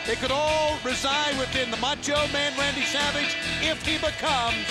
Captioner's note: laugh